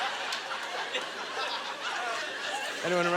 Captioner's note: audience laughter